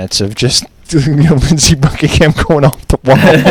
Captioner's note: laughter